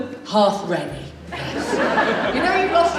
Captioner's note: audience Laughs